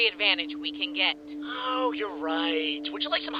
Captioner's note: sarcastic